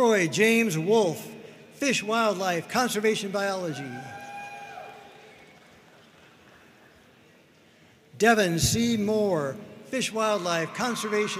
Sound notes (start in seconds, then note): 3.8 audience cheering and applauding